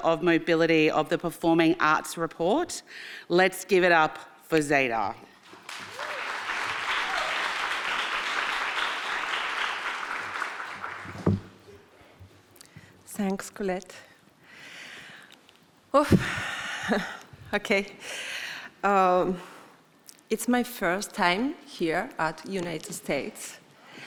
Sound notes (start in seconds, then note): 5.5 audience applauding; 16.2 exhales; 16.2 inhales